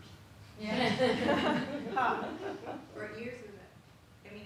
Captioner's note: everyone laughs